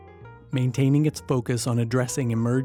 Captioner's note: voiceover